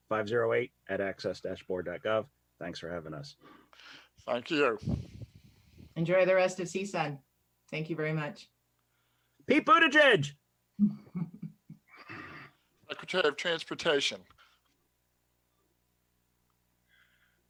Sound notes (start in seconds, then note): 10.8 laughs